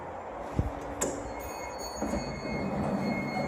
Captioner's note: chime